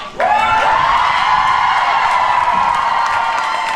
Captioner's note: crowd cheers